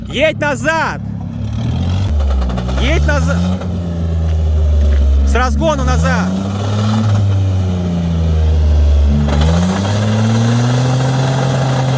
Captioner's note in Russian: Звук рёва мотора